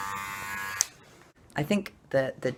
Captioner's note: click